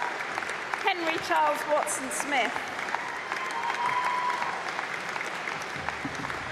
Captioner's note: applause